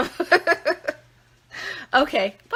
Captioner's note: laughing